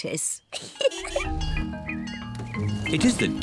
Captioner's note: giggles